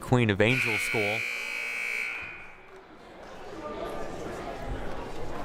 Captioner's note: buzzer blaring